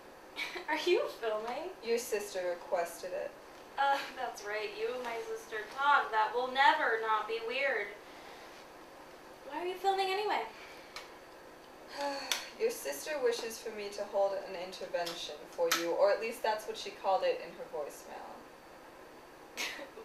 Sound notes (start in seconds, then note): 11.9 sigh